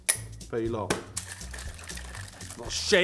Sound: smacks lid

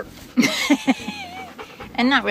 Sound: laughing

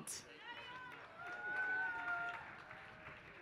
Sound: applause

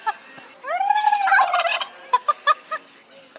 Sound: laughter; turkey gobbling; gobbling; laughter

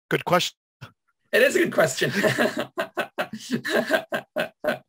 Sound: laughs

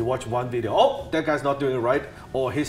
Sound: gasping

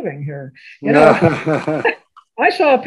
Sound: laughs

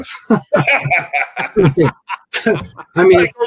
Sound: laughs

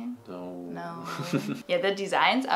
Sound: chuckles

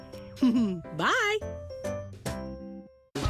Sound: chuckles

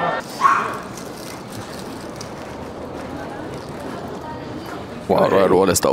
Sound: suitcases rolling

